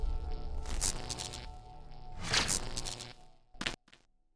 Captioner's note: lightning buzzing